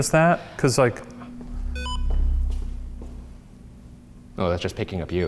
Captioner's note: REM-POD beeps